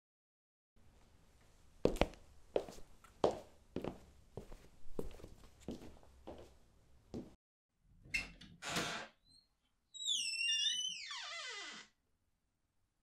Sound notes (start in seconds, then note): 0.7 door opening and closing; 0.7 footsteps